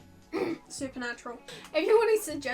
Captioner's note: cough